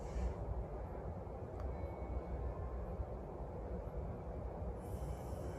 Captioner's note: faint chime